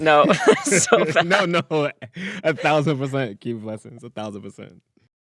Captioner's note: laughter